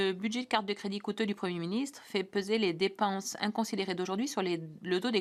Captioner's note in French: voix de l'interprète